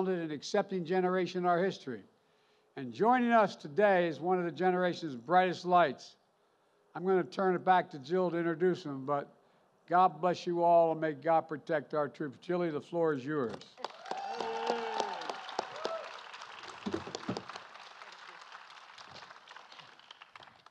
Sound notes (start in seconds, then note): 13.5 applause